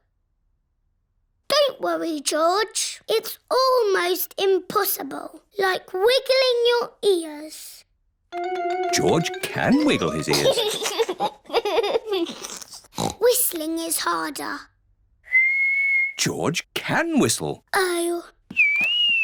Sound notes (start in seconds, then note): 0.2 silence; 9.7 giggles; 12.2 snorts; 15.2 whistling